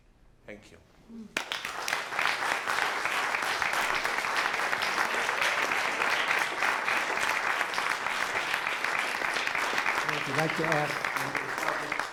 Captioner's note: applause